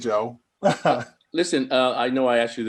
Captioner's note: chuckling